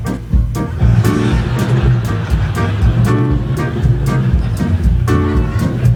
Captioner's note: playful instrumental music; audience laughing